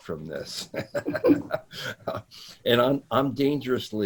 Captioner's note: laughing